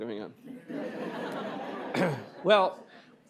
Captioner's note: laughter